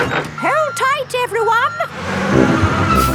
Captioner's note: bus beeping